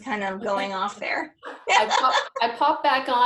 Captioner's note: laughs